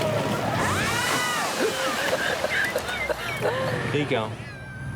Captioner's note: women screaming; laughing